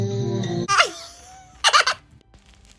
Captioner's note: laughs